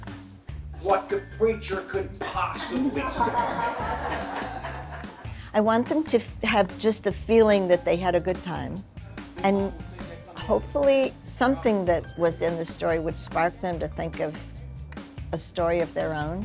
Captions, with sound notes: what the preacher could possibly share. (audience laughs) - I want them to have just the feeling that they had a good time and hopefully something that was in the story would spark them to think of a story of their own.